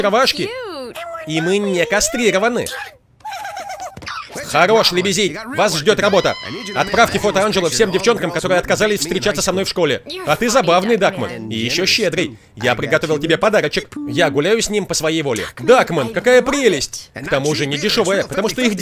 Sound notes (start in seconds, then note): 3.2 giggling